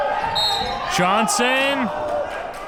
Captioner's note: whistle blows